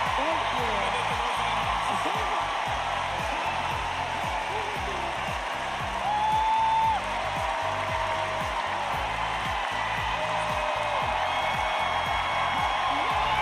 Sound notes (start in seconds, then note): 0.0 cheers and applause